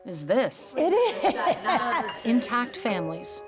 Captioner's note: laughs